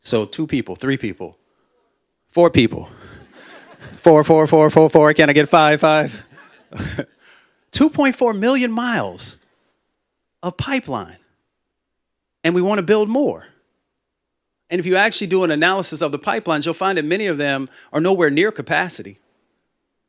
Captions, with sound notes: So two people, three people, four people. [LAUGHTER] (IMITATING AUCTIONEER) Four, four, four, four, four. Can I get a five, five? [LAUGHTER] [LAUGHS] 2.4 million miles of pipeline. And we want to build more. And if you actually do an analysis of the pipelines, you'll find that many of them are nowhere near capacity.